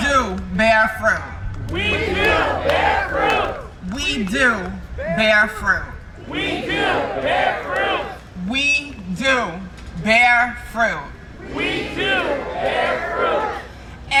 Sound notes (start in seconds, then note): 0.7 crowd; 10.8 crowd